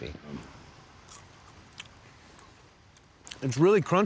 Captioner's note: crunching sound